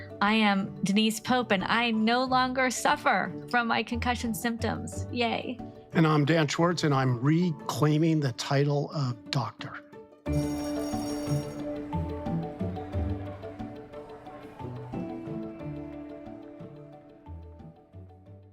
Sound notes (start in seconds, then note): 10.2 upbeat music; 10.3 bell ringing; 12.9 students chattering; 15.0 upbeat music continues